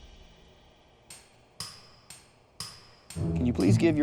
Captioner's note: clock ticks